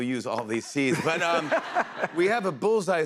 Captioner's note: laughter